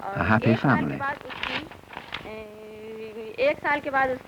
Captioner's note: paper rustle; non-English speech